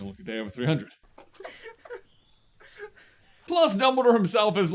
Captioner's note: laughter